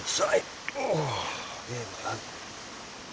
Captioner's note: straining